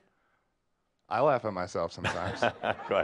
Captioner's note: laughter